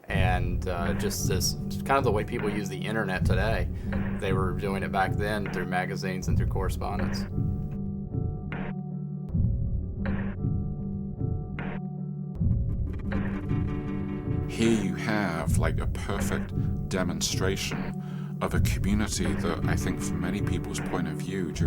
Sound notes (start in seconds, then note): 7.8 rhythmic music; 14.8 voiceover